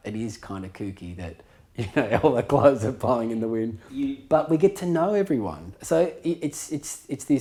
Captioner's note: chuckling